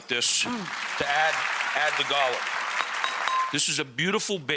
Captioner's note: applause